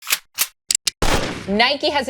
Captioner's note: gun noise